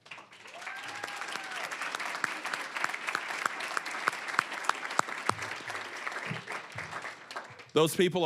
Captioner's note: applause